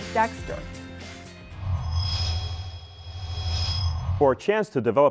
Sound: sound Effects

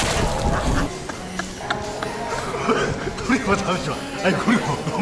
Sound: laughs

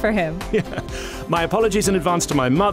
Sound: chuckles

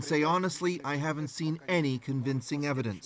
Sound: speaking russian

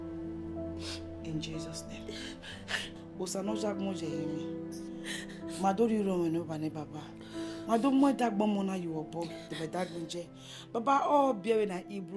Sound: praying in Edo Language

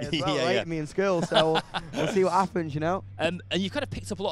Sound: laughs

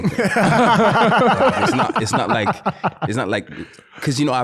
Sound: laughing

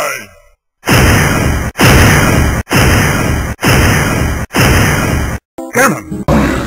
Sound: continuous lightning

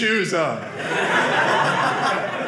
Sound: audience laughing

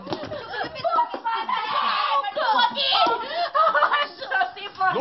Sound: screams

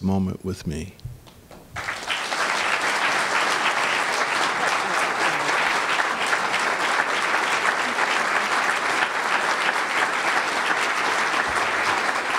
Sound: applause

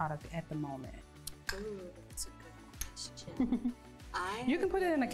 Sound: laughing

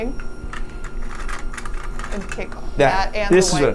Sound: machine part clattering

